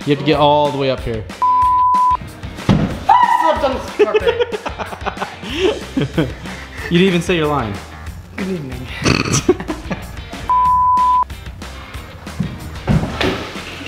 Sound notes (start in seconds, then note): 1.4 beeping; 3.9 laughing; 8.9 laughing; 10.5 beeping